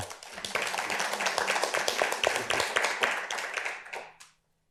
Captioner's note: audience applauding